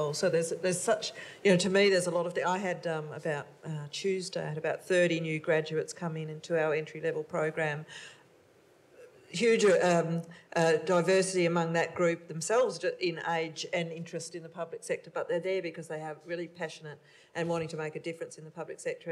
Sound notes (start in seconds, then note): none